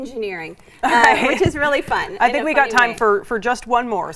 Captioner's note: laughing